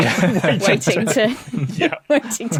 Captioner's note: group chuckling